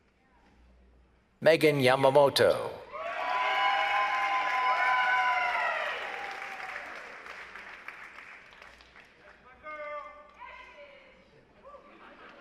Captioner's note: laughter